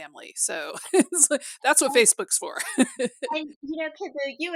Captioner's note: laughter